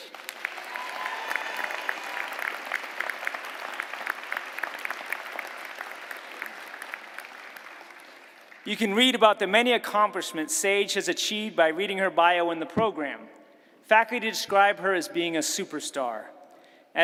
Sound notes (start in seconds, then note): 5.1 applause